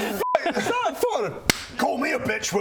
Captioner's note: thump